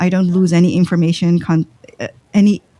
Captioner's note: uh